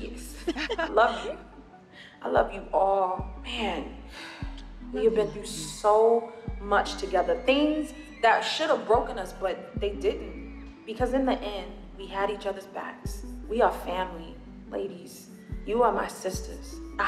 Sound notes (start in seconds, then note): 0.4 laughs; 3.8 sighs